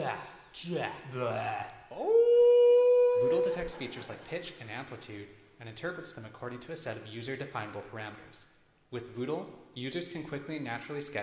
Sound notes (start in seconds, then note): 1.9 howling; 3.6 voiceover